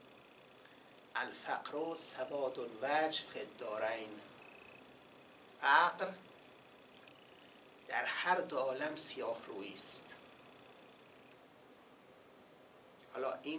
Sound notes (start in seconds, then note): 0.9 quoting Arabic